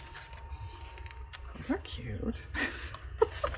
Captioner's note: laughs